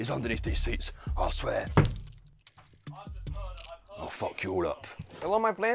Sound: stomps foot on the floor

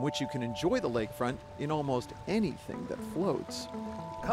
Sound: boat engine revs

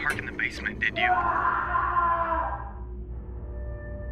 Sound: man screams; ominous music

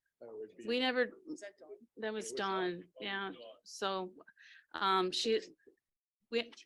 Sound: people chattering

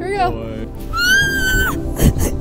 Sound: screaming

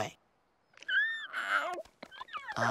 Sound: yawning

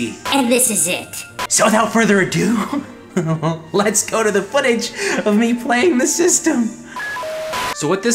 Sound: laughs

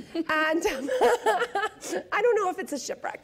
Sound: laughing

